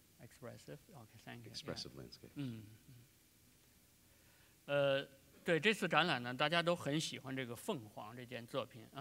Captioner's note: speaking in Chinese